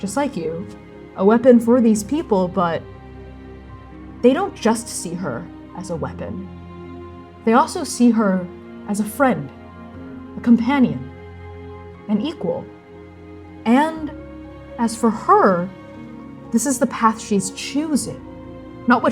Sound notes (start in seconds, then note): none